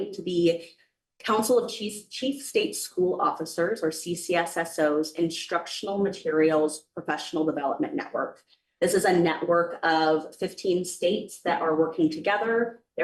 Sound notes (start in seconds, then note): none